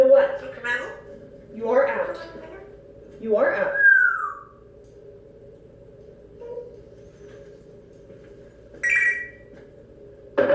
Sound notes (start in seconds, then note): 5.8 soft "doop"; 8.8 phone ringing noise